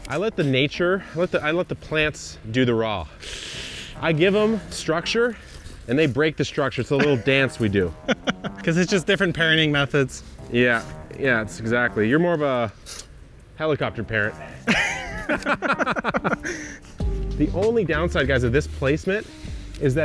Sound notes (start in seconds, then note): 14.6 laugh